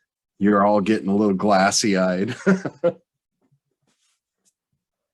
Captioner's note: laughs